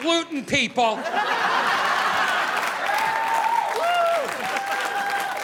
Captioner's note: audience laughing